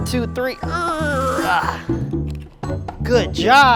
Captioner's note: Pipsy grunts